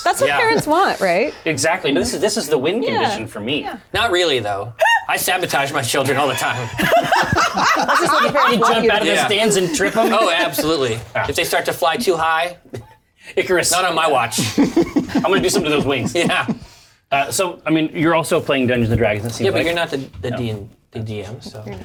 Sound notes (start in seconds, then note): 6.2 laughs